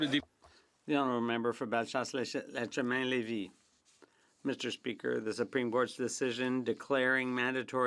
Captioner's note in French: voix de l'interprète